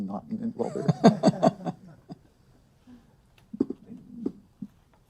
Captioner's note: laughter